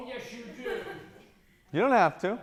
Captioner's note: laughing